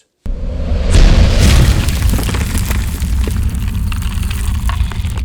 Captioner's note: rocks crumbling